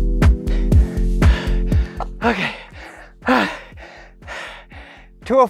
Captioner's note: heavy breathing